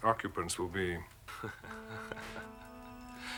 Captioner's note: laughing